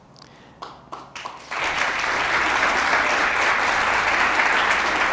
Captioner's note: audience applauds